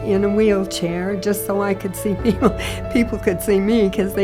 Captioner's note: laughs